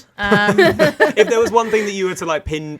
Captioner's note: people laughing